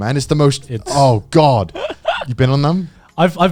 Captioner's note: chuckling